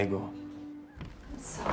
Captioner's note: speaks italian